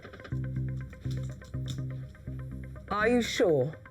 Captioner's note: keys clacking